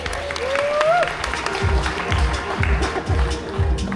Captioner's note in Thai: ปรบมือ